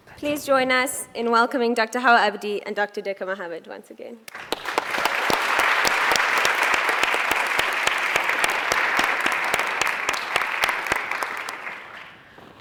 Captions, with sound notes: - Please join us in welcoming Dr. Hawa Abdi and Dr. Deqo Mohamed, once again. (applauding)